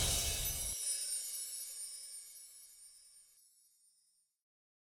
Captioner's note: glitter sound effect